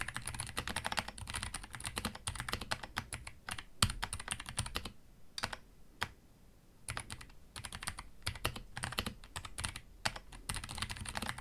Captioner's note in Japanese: タイプ音